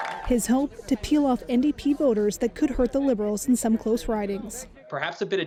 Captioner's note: cheers and Applause